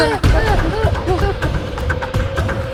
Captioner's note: both startled